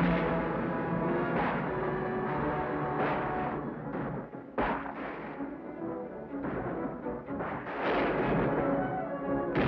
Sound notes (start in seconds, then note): 1.6 exciting music; 1.6 guns bang